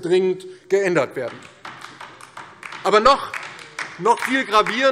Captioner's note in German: Beifall DIE LINKE